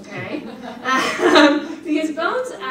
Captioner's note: audience laughs